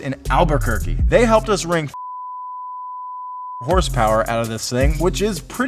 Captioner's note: beep